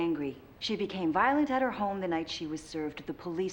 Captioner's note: none